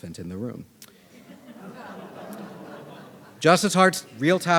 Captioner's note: audience laughing